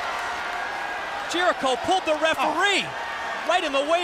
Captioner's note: crowd cheering